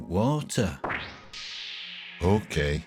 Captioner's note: words whooshing